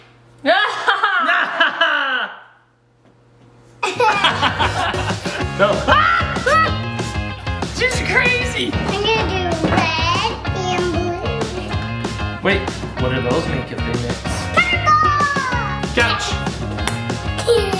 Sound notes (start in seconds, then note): 0.5 laughing; 6.4 screams; 17.2 laughs